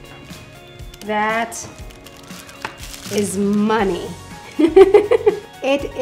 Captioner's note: laughs